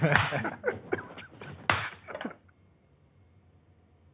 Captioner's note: giggling